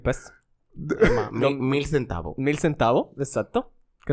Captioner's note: laughs